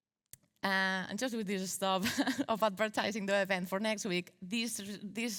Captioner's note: chuckles